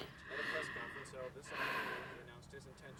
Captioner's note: sighs